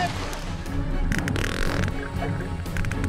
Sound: rapid clicking

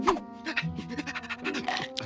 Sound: panting

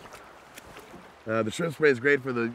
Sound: water flowing

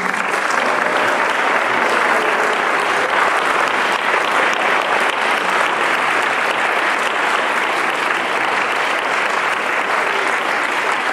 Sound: applause

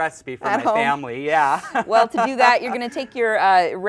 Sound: laughs

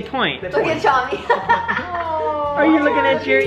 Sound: laughs

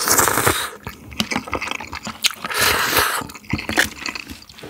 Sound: chowing down non-stop

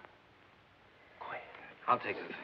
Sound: whispering

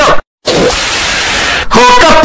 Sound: sounds from the pit of hell

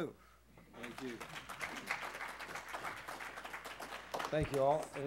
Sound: applause

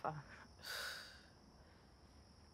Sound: sigh

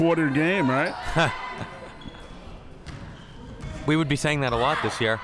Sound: laughing

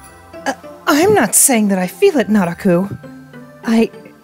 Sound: stammers

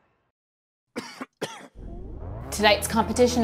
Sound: person coughing

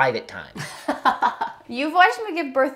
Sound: laughs

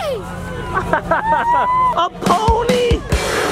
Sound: laughs

